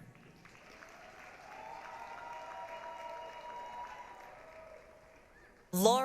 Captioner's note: applause, cheering